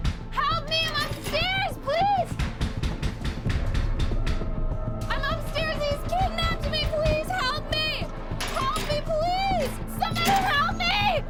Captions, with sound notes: Help me. I'm upstairs. Please. [knocking continues] I'm upstairs, and he's kidnapped me. Please help me. Help me, please. Somebody help me.